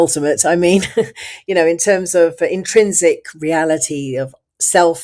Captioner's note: laughs